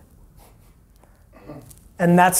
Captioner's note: snickering